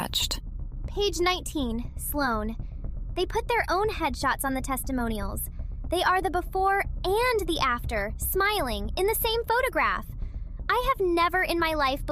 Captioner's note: breath